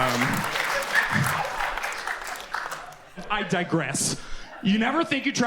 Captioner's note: audience applauds